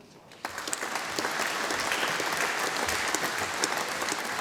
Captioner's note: audience applauding